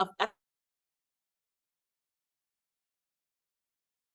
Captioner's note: audio cuts out